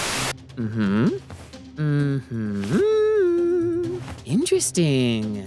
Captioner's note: nodding and humming